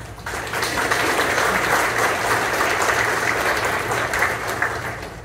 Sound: applause

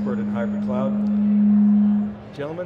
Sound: microphone feedback

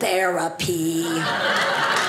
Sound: audience laughing

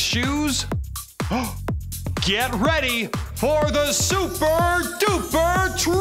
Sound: gasp

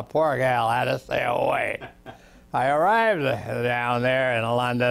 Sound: laughs

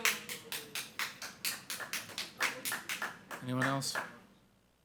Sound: audience applauding

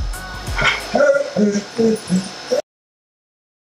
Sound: Harvey whines

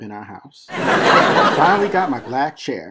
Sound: laughter

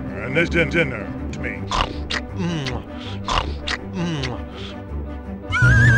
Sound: imitates chomping

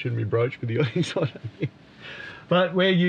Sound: laughing

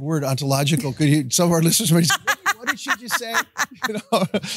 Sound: laughing

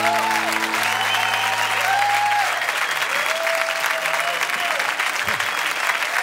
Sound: cheers and applause

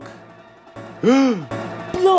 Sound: gasp

